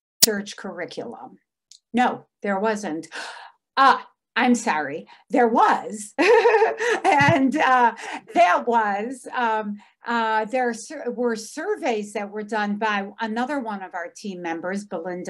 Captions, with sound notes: No, there wasn't. Oh, I'm sorry, there was (laughs) and there were surveys that were done by another one of our team members,